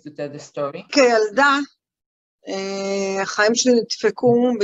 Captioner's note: non-english speech